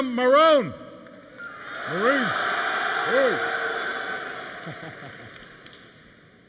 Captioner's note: applause